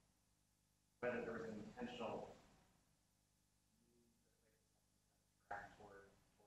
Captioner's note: speaking off mic